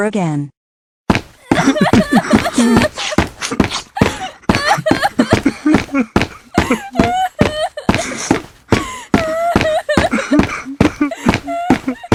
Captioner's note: crying